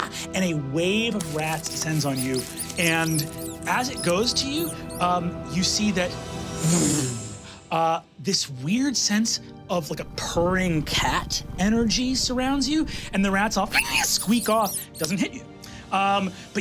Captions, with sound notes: And a wave of rats descends on you. And as it goes to you, you see that (blows air) this weird sense of, like, a purring cat energy surrounds you. And the rats all (squeaks) squeak off, doesn't hit you.